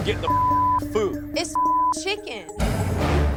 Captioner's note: beep